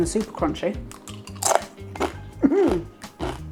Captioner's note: crunchy chewing